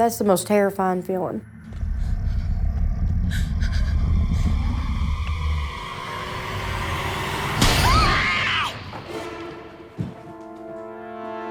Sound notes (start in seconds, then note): 1.4 growling; 6.7 slapping; 7.8 Candace Re-Enactor screaming; 8.4 suspenseful music